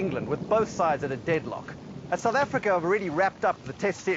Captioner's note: thunder rumbles